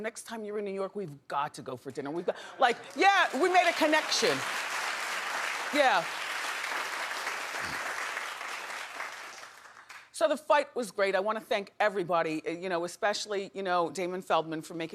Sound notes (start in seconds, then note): 5.3 audience applauding